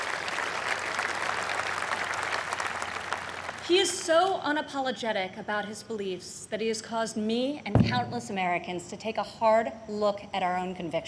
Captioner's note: applause